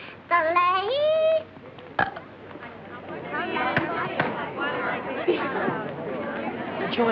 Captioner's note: yodeling; burp